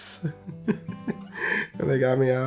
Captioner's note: laughs